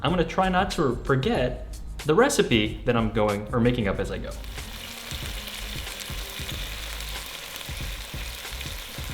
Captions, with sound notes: I'm gonna try not to forget the recipe that I'm going, we're making up as I go. (sizzling)